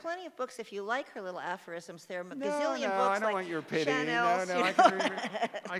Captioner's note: laughter